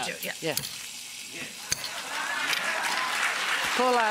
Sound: audience laugh and applaud

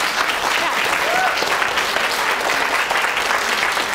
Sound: applause

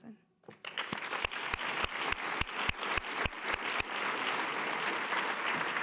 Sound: audience applause

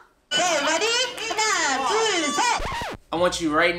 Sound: laughing; speaks in foreign language; record scratching

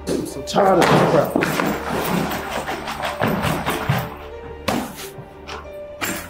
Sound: bag rustling; mysterious music continues

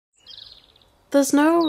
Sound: birds chirping

